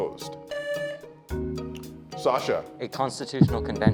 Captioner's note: tone sounds